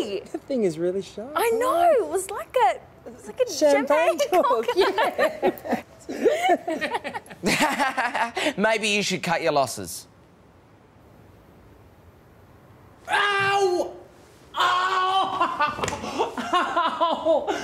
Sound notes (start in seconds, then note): 4.4 laugh; 7.4 sarcastic; 14.5 screams